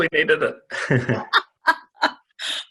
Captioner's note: laughing